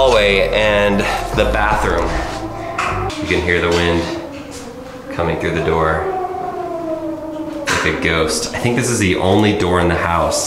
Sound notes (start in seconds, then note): 4.4 wind whistles